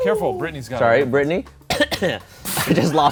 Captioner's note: fake coughs; laughs